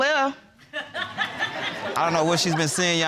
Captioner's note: audience laughing